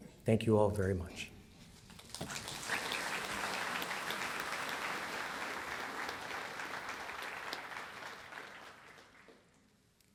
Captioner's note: applause